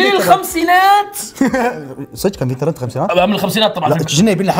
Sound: laughs

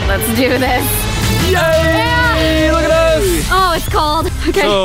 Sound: yelling

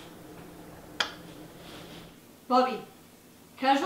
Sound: smacking noise

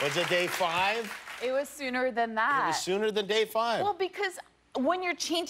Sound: applause

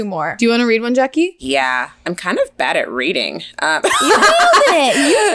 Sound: laughs

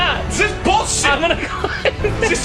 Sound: laugh

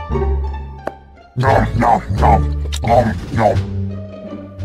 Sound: eating noises

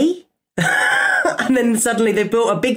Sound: laughs

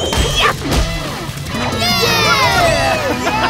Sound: cheering

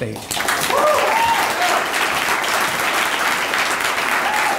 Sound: audience applauding

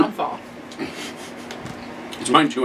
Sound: laughing

